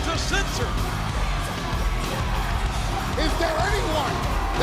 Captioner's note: crowd cheering; upbeat music